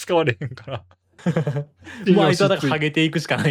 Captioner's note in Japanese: 笑い